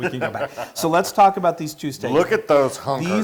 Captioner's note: laugh